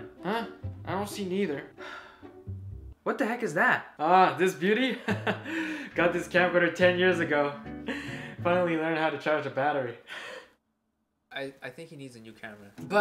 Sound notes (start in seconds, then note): 1.8 sigh